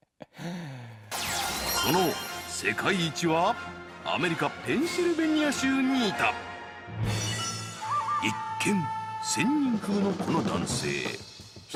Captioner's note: television broadcast in Japanese